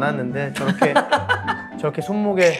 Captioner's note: laughing